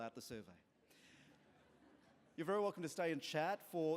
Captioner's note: laughter